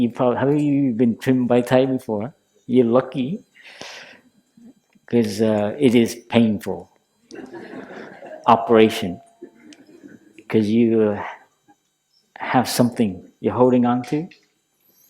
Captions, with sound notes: Have you been trimmed by Thay before? You're lucky. Because it is painful. (Laughter) Operation. Because you have something you're holding on to.